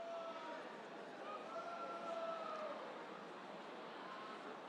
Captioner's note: people chattering